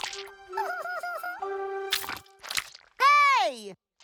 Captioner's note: chittering